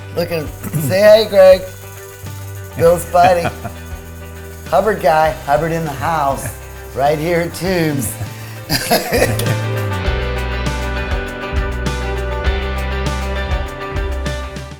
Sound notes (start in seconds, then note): 8.6 laughing; 10.0 bright upbeat music